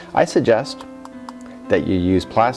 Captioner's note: tap tap tap